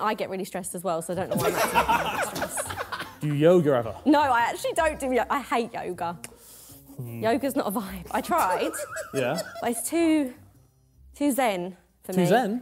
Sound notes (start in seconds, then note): 1.2 Sidemen laughing